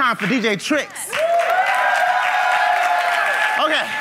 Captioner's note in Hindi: भीड़ द्वारा जय जयकार करते हुए; ताली